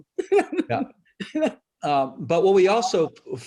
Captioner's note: laughs